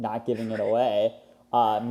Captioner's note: laughs